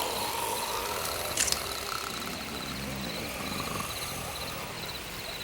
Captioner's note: Bruto snores; knife flicks